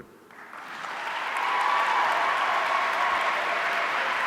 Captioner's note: audience cheering